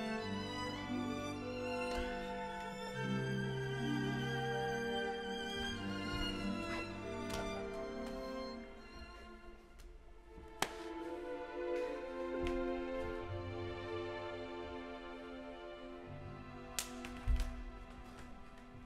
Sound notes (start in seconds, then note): 4.8 lush music continues; 14.8 lush music continues; 16.7 Rodolfo slaps hand